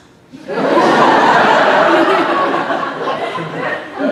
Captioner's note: audience laughing